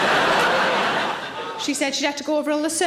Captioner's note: audience laughs